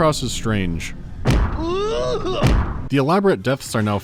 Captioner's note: boosh